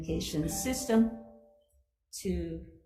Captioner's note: laptop notification beeps